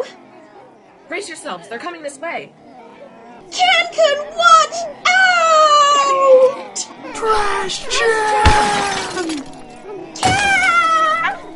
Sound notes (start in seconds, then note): 3.9 Trash-Chan, crying out; 7.0 Can-kun/Bin-san, crying out; 7.1 Trash-chan, being beaten, loud crashing, in pain